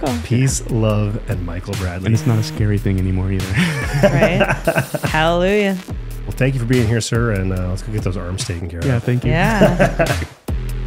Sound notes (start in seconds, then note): 3.5 laughing; 10.6 upbeat music